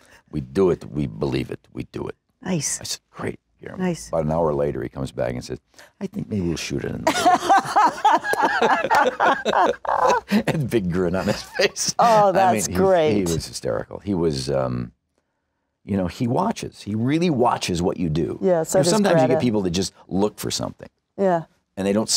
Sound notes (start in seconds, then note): 7.0 laughter